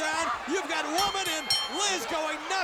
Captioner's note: bell ringing